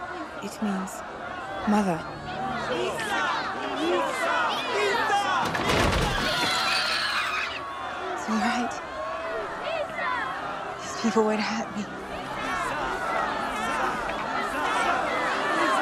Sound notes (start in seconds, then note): 1.6 more chanting; 10.8 more muddled chanting of "myhsa!"